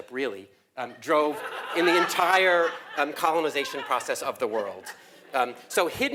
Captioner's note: laugh